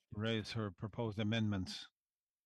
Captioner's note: speaking French